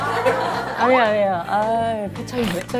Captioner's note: chuckles